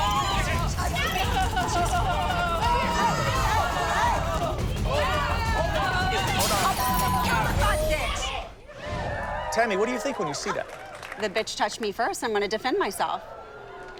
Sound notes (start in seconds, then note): 1.5 shouting continues